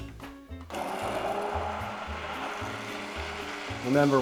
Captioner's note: blender whirs